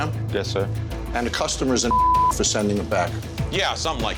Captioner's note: beep